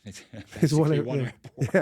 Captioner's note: laughs